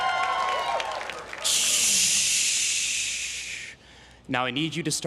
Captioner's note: imitating air brakes